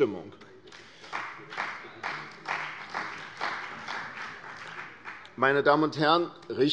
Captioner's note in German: Beifall bei der CDU und dem BÜNDNIS 90/DIE GRÜNEN